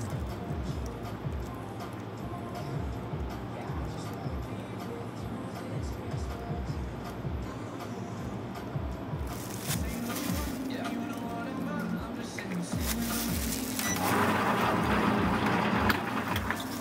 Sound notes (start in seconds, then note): 13.8 wiing